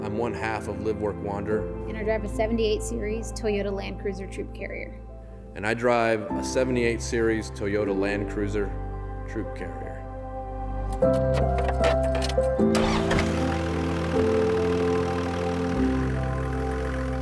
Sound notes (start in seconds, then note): 10.9 calm music; 13.1 car engine revving